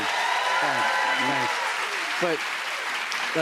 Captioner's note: cheers and applause